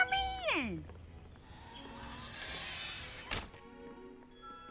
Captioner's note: door creaks, shuts